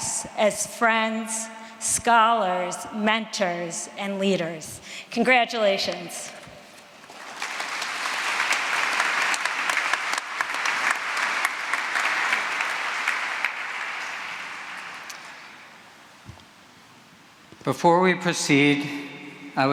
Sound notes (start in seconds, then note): 7.0 applause